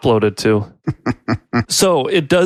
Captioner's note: laughs